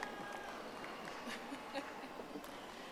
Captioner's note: audience applauding